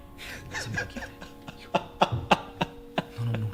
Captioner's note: laughter